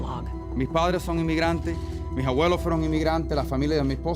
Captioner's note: speaking Spanish